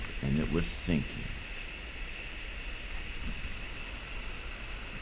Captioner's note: water hissing